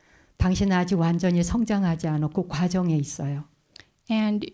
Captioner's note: speaking in Korean